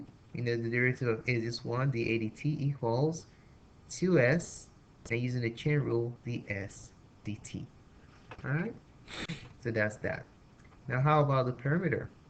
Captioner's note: sniffs lol